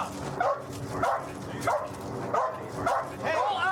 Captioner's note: dog barking